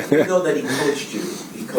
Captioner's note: laughs